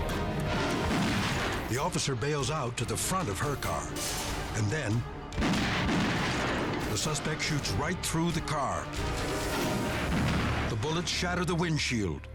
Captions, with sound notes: (gunshot resonates) The officer bails out to the front of her car. And then (gunshots resonate) the suspect shoots right through the car. The bullets shatter the windshield,